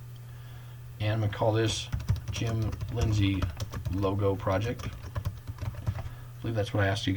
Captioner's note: typing